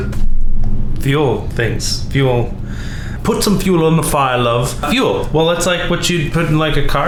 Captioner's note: British accent